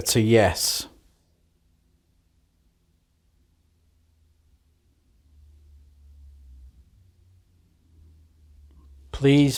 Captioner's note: silence